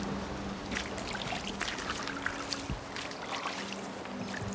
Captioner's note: water splashing